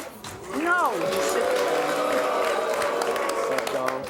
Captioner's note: audience boos